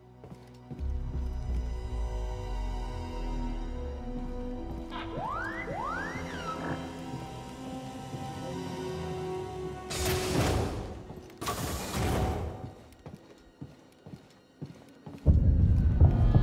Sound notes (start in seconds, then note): 5.0 whistle